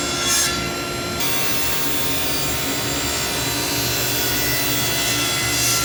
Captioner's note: sawing through wood